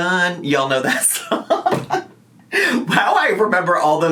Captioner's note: laughs